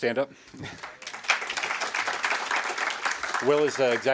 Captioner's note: audience clapping